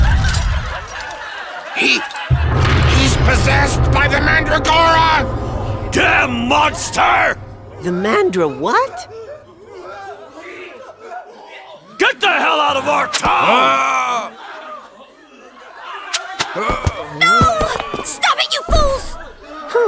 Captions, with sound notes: (Laughing) He... He's possessed by the Mandragora! Damn monster! The Mandra-what? Get the hell out of our town! (Slurs) Ahhhhh! No! Stop it you fools!